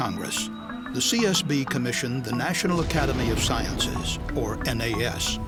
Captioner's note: sound of explosion